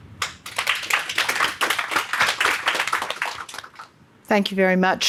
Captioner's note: audience clapping